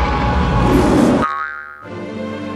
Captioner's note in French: bruit de ressort